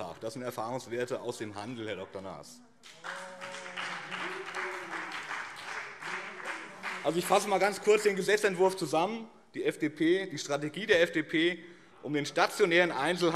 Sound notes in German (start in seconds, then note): 2.8 Beifall BÜNDNIS 90/DIE GRÜNEN